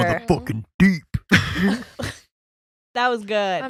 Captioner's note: laughing